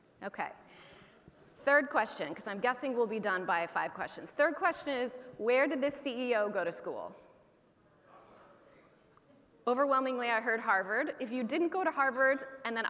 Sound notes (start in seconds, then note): 7.8 audience chattering